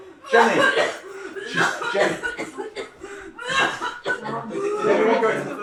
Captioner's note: coughing uncontrollably